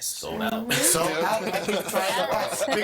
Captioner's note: all laughing